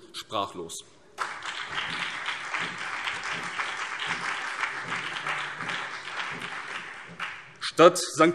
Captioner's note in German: Beifall BÜNDNIS 90/DIE GRÜNEN, CDU und Freie Demokraten